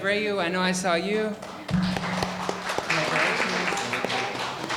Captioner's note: audience applauding